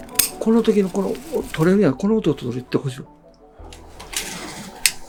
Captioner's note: speaking foreign language